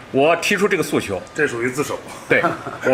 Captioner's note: laughs